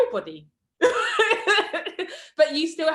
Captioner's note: laughs